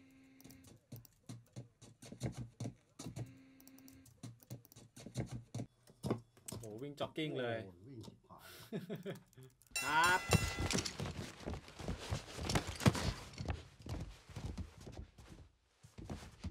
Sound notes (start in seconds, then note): 2.6 footsteps; 7.3 speaks in a foreign language; 8.4 laughs; 9.7 bell rings